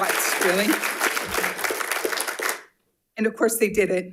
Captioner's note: attendees applauds